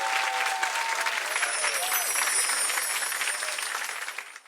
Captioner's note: wind chimes